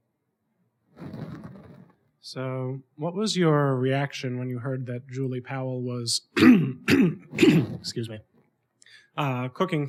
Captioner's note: clearing throat